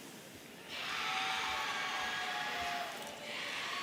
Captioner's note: audience cheering